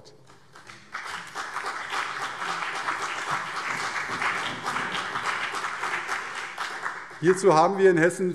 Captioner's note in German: Beifall CDU und BÜNDNIS 90/DIE GRÜNEN